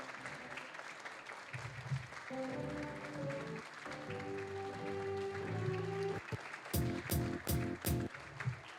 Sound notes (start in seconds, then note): 0.0 applause; 6.7 upbeat music